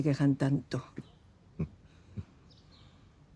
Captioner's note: Eduardo chuckles